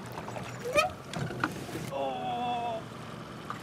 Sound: fish splashing; creaking

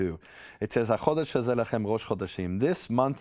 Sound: speaks in Hebrew

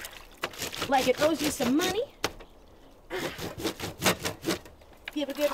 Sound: clothes grating; water sloshing

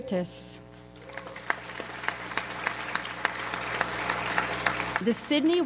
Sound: audience applauds

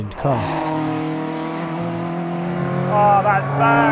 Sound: car engine revving

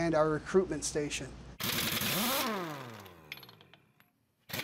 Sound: drill whirring

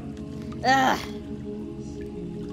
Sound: ugh

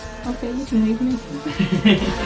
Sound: giggles

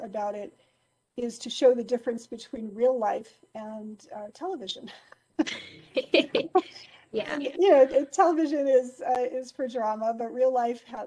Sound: laughing

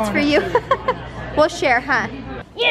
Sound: laughs

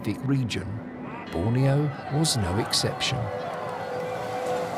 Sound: soldiers shout

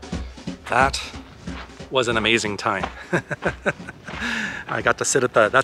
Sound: laughter

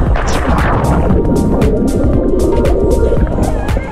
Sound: water swooshing

